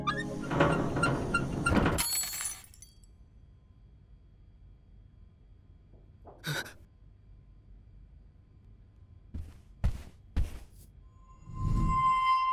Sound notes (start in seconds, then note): 0.4 metal clanking; 6.0 Paul sighs; 9.3 footsteps approaching